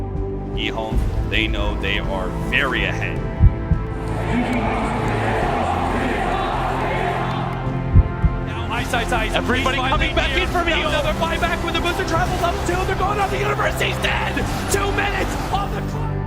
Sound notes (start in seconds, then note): 4.1 Crowd chanting "EHOME"